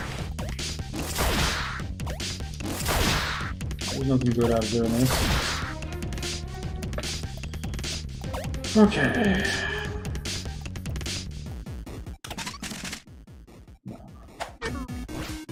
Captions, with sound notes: There's nothin' good out of doin' this. [sighing] Okay. Mrow.